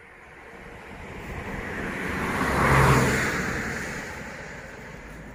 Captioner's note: vehicle sounds